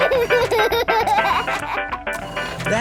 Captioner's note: giggles, snorts; giggling; music fades